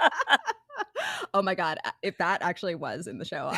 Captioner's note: both Laughing